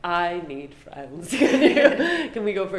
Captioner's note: both laugh